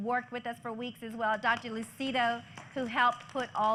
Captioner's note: applause